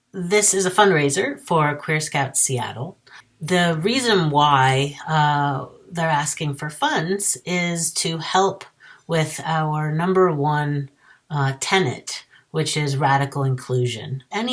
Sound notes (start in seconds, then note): none